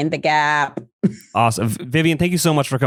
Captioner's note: laughs